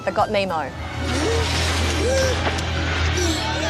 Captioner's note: gasping